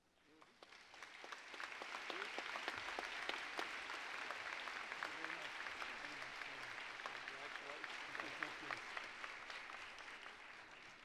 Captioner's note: applause